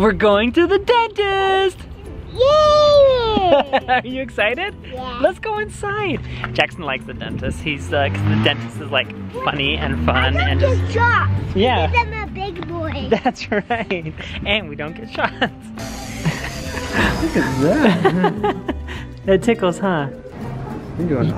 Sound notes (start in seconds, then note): 15.8 machine buzzing; 18.3 laughs